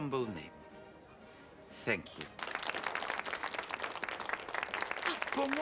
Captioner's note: Tepuk tangan